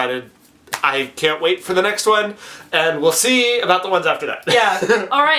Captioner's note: laughs